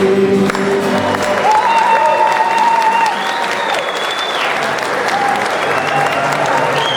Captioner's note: crowd cheering; crowd applauding